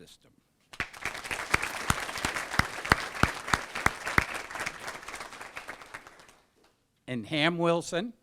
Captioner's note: applause